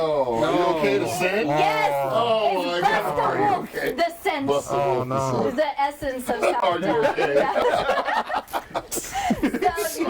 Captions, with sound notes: - Nooo! - No! (overlapping chatter) - Is the essence. (all laughing)